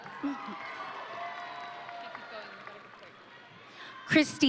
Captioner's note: audience cheering